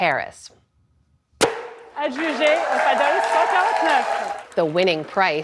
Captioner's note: cheering